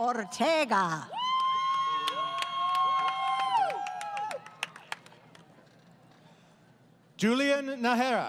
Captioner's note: crowd Cheering